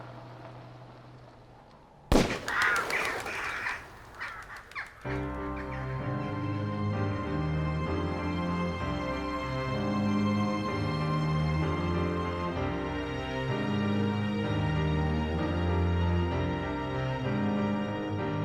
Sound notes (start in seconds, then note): 2.1 gunshot blasts; 2.1 birds cawing